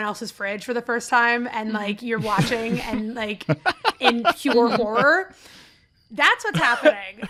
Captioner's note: laughter